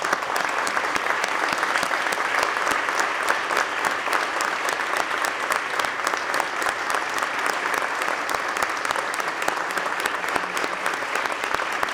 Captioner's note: applause